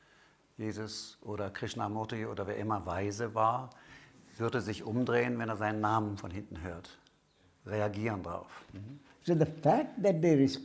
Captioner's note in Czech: německy opakuje, co Raméš právě řekl